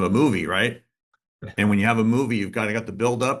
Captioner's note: laughs